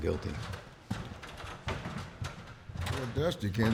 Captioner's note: clattering sound